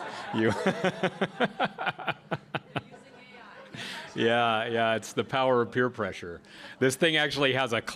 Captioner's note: laughs